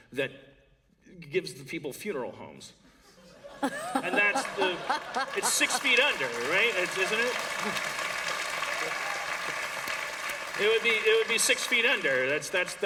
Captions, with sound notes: that gives the people funeral homes [laughter]. And that's the -- it's six feet under [applause], right? Isn't it? It would be -- it would be six feet under.